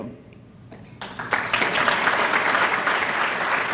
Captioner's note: applause